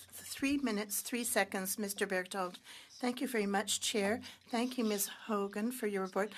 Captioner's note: speaking French